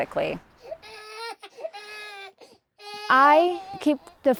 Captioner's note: baby crying